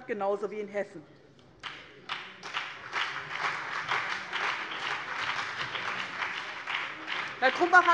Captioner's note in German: Beifall BÜNDNIS 90/DIE GRÜNEN und CDU